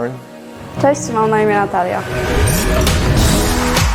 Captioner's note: speaking in foreign language; upbeat music